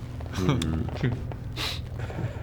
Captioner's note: smugless laugh